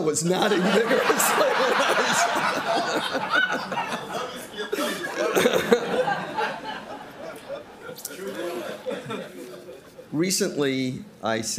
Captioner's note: crowd laughing